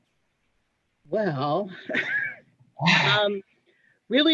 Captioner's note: laughing